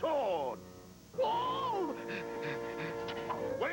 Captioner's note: gasps